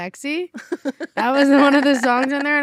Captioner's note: laughs